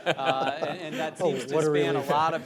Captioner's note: laughter